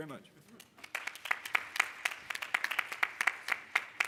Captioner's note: applause